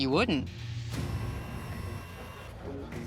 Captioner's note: camera whirling; pensive music